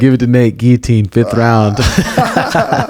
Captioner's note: laughs